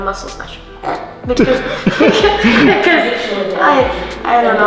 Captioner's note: laughing